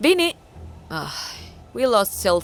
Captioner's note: sigh